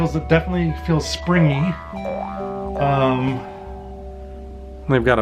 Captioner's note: spring sound effect